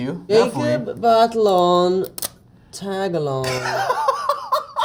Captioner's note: mispronouncing